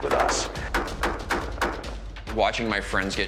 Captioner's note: automatic weapons chatter